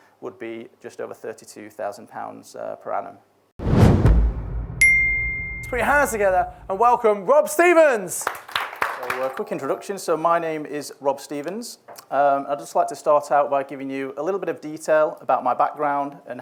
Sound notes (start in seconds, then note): 3.6 whooshing; 4.8 bell dings; 8.2 audience applauds